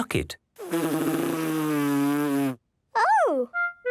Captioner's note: blows